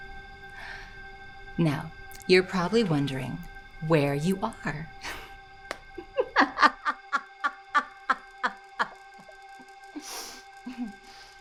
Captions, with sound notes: Now, you're probably wondering where you are. (laughs)